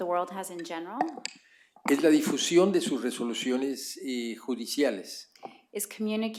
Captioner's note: spanish